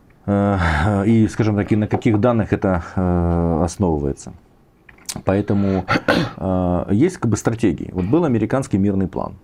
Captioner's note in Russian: откашливается